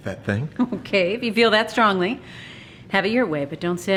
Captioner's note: chuckles